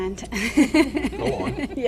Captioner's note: laughing